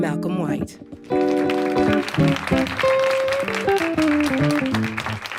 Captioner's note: applause